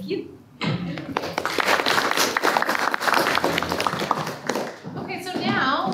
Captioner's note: applause